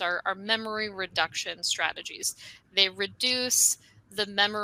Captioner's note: none